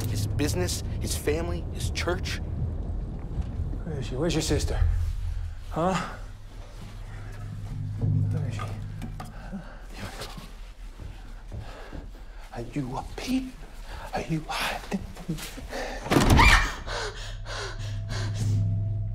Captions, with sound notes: his business, his family, his church. Where is she? Where's your sister, huh? Where is she? Are you up here? Are you hiding? [SHRIEKS] [BREATHING HEAVILY]